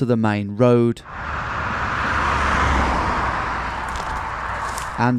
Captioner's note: car whirring